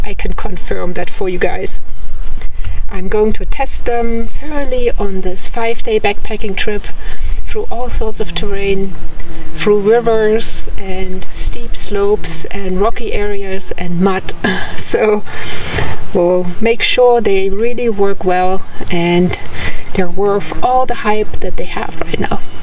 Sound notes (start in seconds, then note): 14.2 laughs